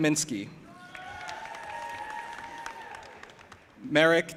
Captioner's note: audience applauding and cheering